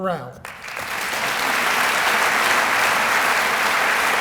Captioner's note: applause